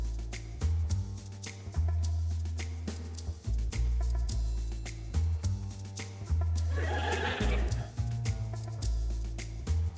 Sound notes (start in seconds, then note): 6.8 laughter